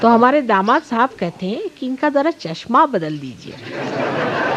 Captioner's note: yogis laugh